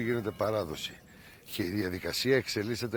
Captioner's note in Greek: ηχούν καμπάνες